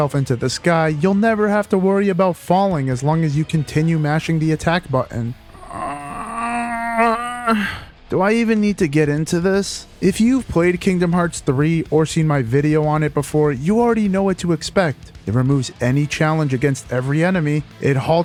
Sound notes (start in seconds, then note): 5.3 groan